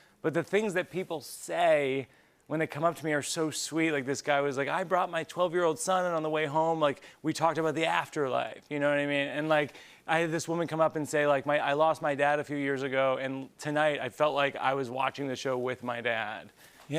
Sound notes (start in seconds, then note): none